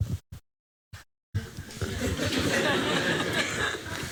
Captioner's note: laughter